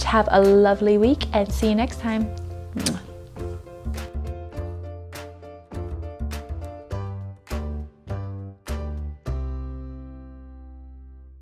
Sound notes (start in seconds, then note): 2.8 blows kiss loudly; 4.3 upbeat music